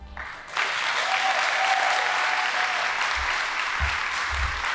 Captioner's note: audience applauding